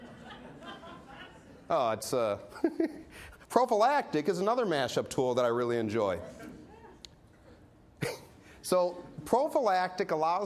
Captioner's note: laughter; laughs